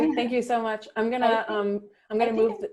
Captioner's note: laughing